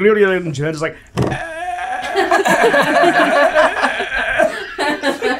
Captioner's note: laughter